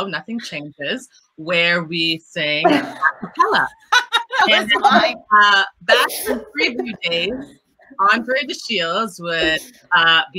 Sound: laughter

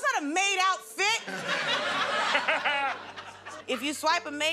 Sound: laughter

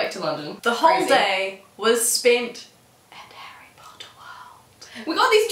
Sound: whispers

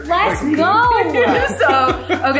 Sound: laughing

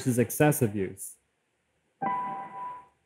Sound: longer ding

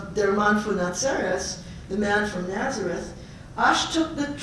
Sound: Yiddish

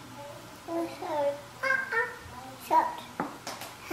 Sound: baby mumbling

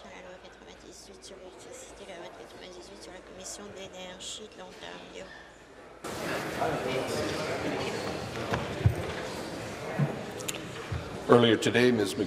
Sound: rhythmic tapping

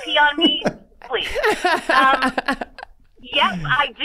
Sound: all laughing

